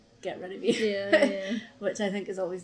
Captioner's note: laughs